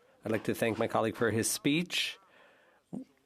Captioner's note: speaking French